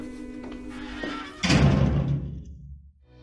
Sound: door slamming

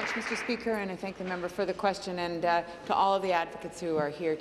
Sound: applause

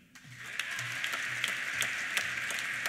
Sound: applause; cheers

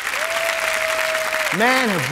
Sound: audience applauding; audience whooping

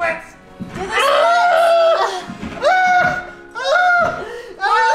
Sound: screams

